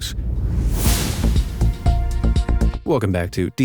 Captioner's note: graphics whoosh; pensive music